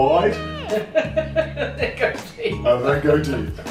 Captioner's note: laughing